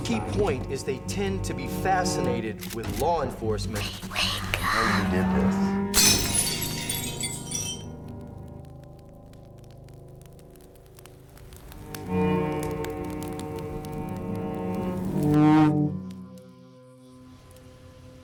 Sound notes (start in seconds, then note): 5.9 glass shatters; 11.6 plaintive music